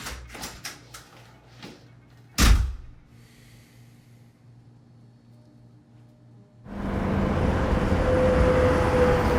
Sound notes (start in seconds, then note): 2.4 door slams; 6.7 traffic whizzing